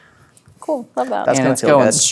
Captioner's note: speaking quietly